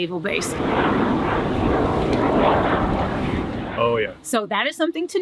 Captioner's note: jet engine roaring